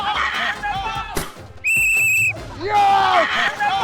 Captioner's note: balloon pops; whistle blows; balloon pops; whistle blows